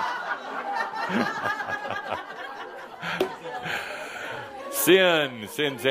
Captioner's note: laughter